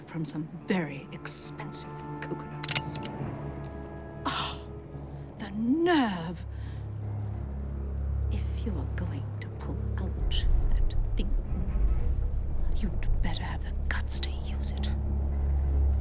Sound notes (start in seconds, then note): 2.6 gun cocking; 6.6 mysterious music ends; 6.6 tense music plays